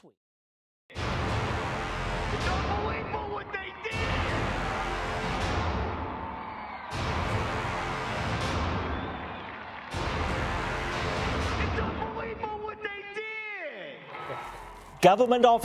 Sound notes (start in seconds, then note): 3.6 cheering